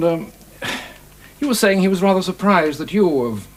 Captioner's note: exhales sharply